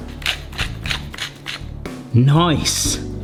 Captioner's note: grinder grates